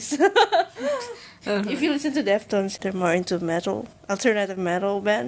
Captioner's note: laughs